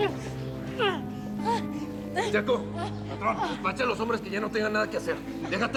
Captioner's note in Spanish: sollozos